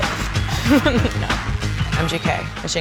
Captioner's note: laughing